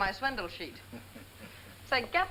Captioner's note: laughing